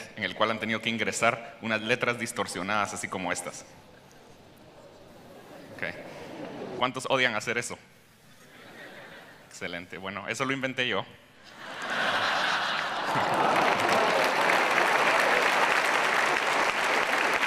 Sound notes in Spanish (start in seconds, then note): 11.4 Risas; 13.7 Aplausos